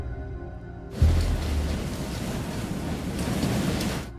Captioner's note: wind gushing